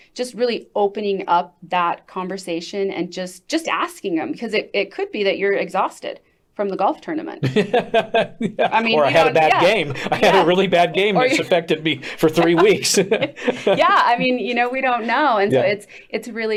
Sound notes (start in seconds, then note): 7.5 laughs; 13.0 chuckles